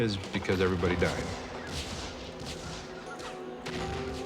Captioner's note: gunfire